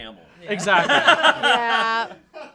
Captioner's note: everyone laughs